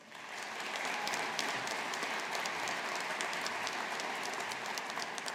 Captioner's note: audience applauding